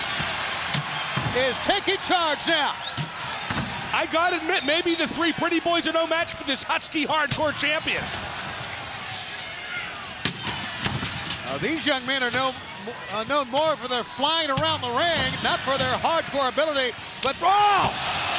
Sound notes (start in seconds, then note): 2.9 crowd cheering; 8.0 crowd cheering; 10.1 trash can clattering; 17.5 crowd cheering